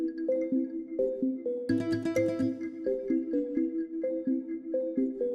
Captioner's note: gentle music continues; graphic chimes